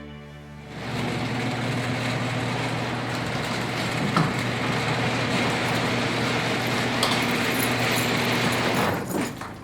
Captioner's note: garage door opening